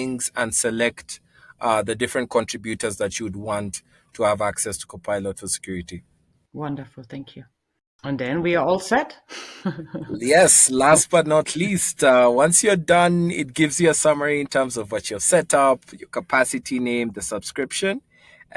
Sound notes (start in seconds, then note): 9.6 laughs